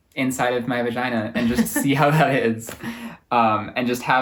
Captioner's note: laughs